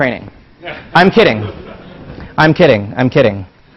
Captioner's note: laugh